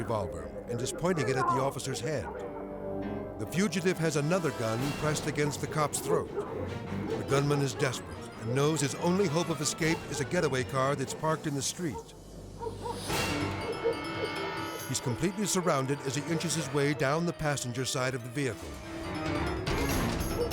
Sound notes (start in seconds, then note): 12.1 tense music; 12.6 dog barking; 18.8 tense music